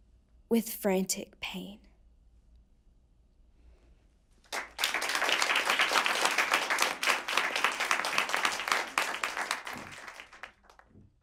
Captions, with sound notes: With frantic pain. (applause)